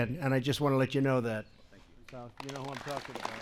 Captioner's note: applause